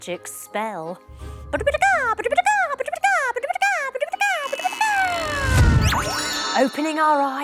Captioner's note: spell noise